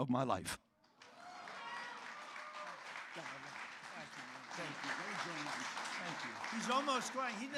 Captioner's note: applause